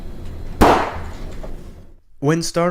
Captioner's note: gunshot